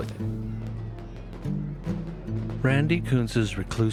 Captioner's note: fireworks popping